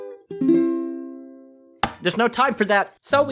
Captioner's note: crack!